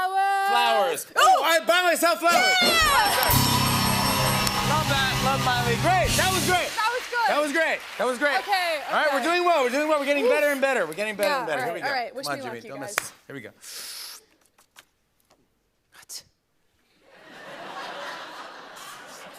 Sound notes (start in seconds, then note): 2.6 cheers and applause; 2.6 ding!; 17.1 laughter